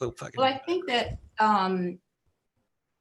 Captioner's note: speaking faintly